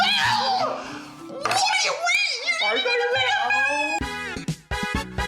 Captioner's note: high-pitched ranting; jazzy music